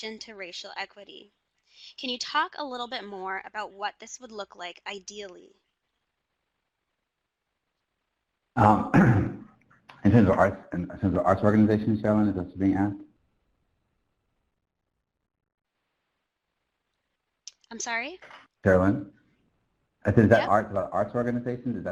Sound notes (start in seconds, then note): 8.6 clears throat